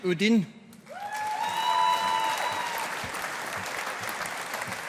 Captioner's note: audience applauding